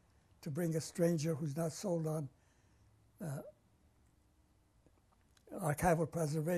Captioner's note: pauses for 3 seconds